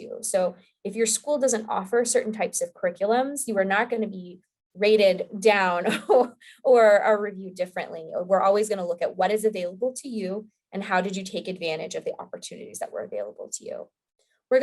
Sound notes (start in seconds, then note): 6.0 laughing